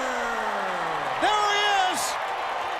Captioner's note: crowd cheering